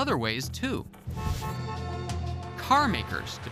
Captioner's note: horns honking